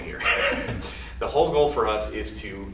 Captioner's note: laughs